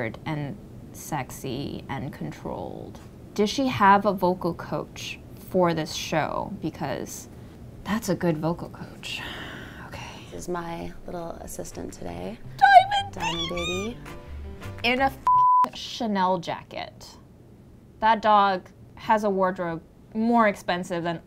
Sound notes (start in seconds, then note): 10.1 sighs; 15.2 beep